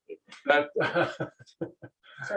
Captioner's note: laughs